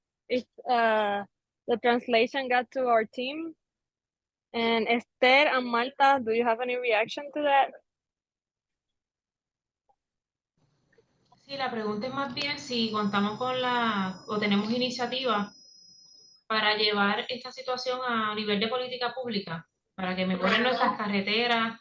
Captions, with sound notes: if the translation got to our team. And Esther and Malta, do you have any reaction to that? [SPEAKING SPANISH]